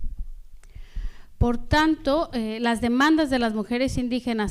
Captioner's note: speaking spanish